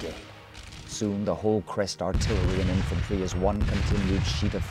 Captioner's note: voiceover